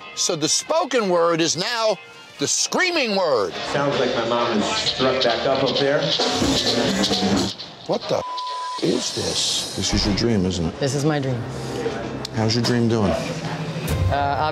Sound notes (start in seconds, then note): 8.2 beep